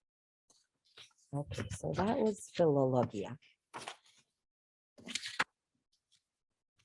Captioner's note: speaking in foreign language